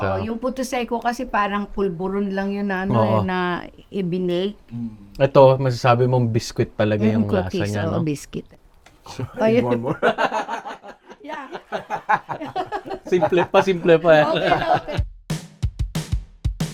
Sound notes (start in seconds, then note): 9.0 laughs